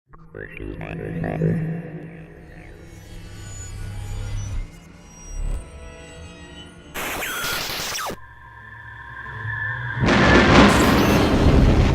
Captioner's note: sound Effects